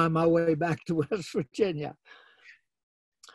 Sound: laughs

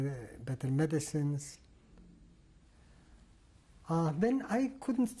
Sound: pauses for 3 seconds

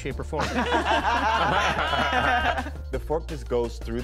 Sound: laughing

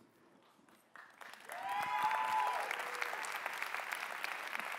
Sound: cheering

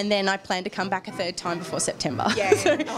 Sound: laughs

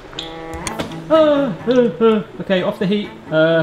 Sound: worried noises

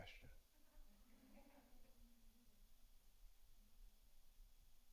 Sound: audience laughs

